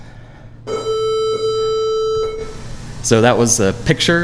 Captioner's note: tone playing